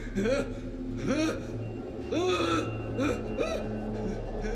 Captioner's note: Roy screaming; dramatic music